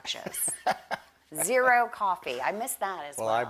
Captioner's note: laughs